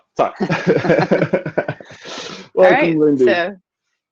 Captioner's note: both laughing